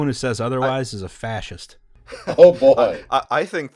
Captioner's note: laughter